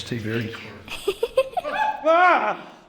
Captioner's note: child giggles; both gasp